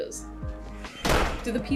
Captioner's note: door slams open